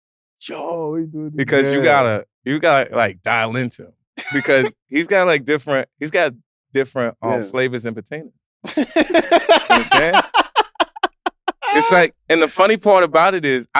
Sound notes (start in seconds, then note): 8.6 laugh